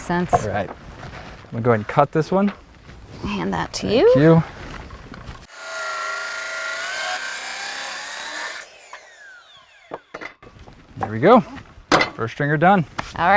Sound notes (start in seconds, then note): 5.4 saw whining, no additional audio